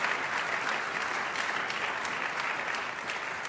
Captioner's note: applause